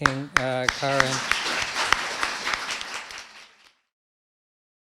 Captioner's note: audience applauding